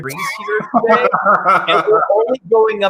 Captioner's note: laughs